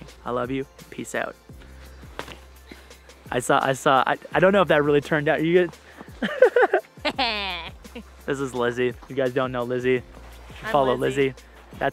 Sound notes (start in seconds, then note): 6.0 both laugh